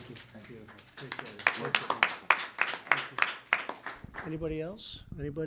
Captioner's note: applause